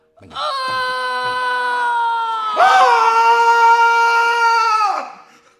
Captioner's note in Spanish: todos gritan; grita muy fuerte